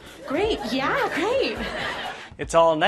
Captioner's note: audience laughter